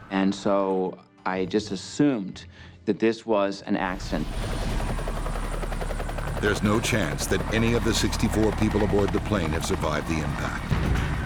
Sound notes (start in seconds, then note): 3.9 helicopter thumping; 6.5 voiceover